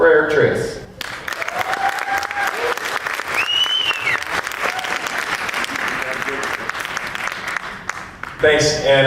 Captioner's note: applause and whistling